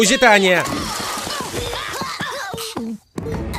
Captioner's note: grunting and yelling; gagging